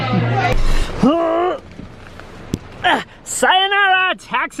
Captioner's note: groans